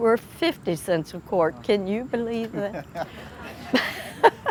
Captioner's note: laughing